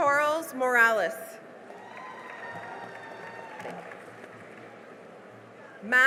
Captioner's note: cheering and applause